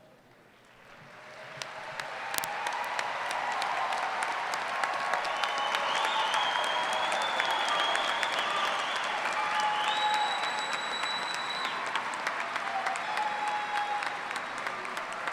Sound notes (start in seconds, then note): 1.1 cheering; 5.6 applause